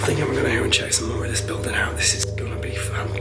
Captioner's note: murmuring